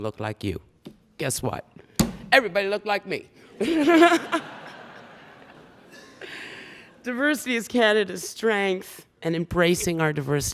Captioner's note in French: Rires